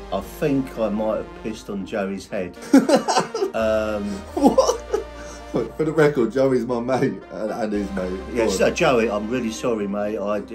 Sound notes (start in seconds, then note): 2.5 host laughing